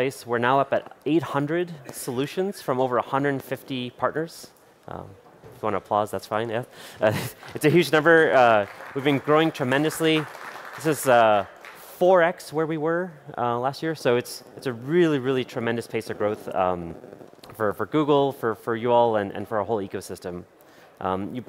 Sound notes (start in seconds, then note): 7.0 chuckles; 7.2 applause